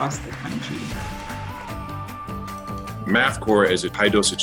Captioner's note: students clapping; lively music